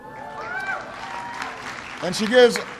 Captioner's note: applause